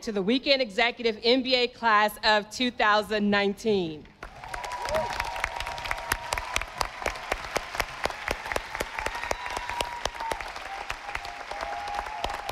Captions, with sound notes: to the Weekend Executive MBA Class of 2019. (audience applauding)